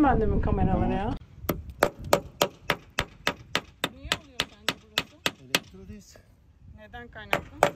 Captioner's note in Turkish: Çekiç Sesi